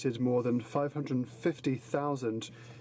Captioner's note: speaking French